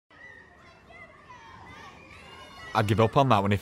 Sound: playful shouting

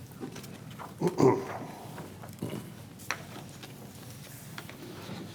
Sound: clears throat

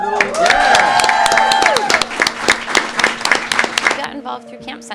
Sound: cheering

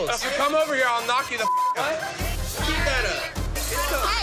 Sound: beep

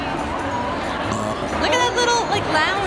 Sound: burps

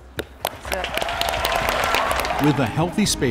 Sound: all applauding

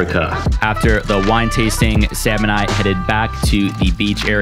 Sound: voiceover

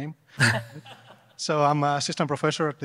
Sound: panel laughing

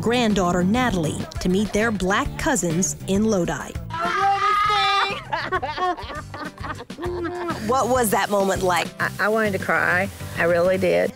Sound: laughter

